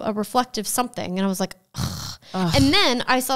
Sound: scoffs

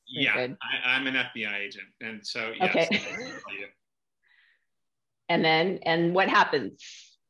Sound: laughter

